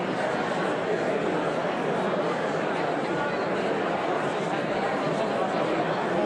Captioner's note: audience continues indistinctly chattering